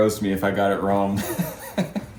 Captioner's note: laughs